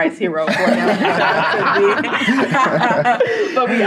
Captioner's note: loud laughter